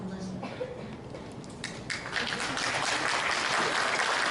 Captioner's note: applause